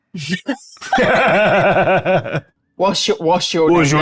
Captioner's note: laughing